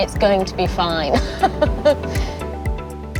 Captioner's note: laughing